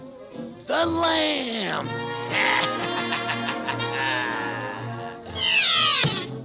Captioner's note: cackling